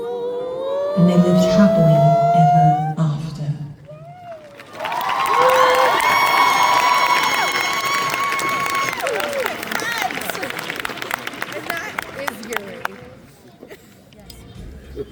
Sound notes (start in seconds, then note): 4.2 applause